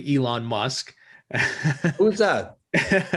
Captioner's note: laughs